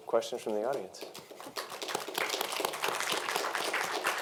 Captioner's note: applause